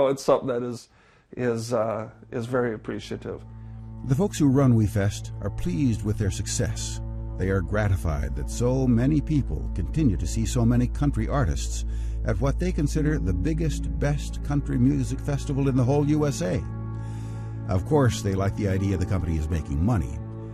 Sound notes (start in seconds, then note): 4.2 voiceover